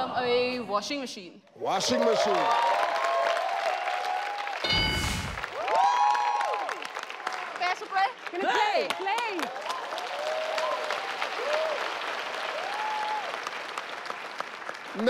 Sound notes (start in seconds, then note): 1.6 audience clapping; 4.6 bell dings; 6.0 audience cheering; 10.1 audience clapping